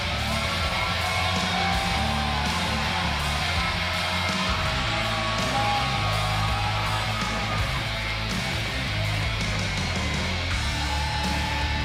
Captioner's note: cheers and applause